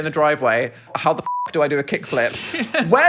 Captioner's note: beep